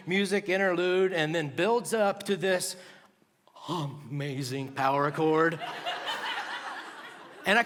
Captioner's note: laughter